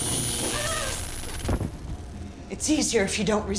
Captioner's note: electricity buzzing; Kira grunts